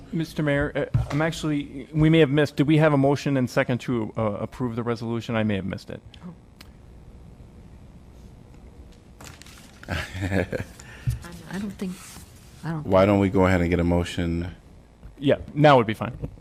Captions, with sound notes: Mr. Mayor, actually we may have missed. Do we have a motion and second to approve the resolution? I may have missed it. [LAUGHTER] I don't think. Why don't we go ahead and get a motion? Yeah. Now would be fine.